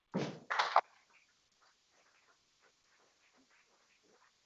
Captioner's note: people clapping